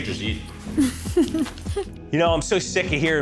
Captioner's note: laughs